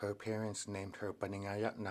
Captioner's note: speaking Alternate Language